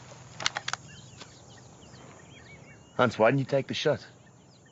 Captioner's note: cocks gun